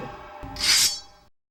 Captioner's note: sound of sword slicing